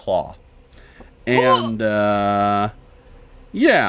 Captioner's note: Omelette grunts